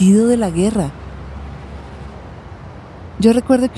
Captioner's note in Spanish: Sonidos de carros